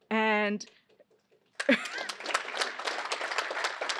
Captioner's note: applause